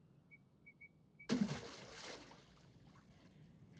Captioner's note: water splashes